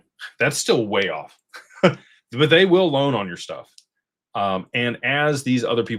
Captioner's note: laughter